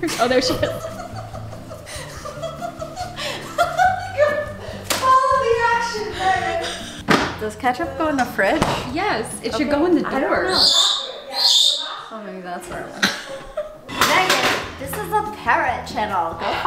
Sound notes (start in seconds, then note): 0.1 laughing; 10.4 birds tweeting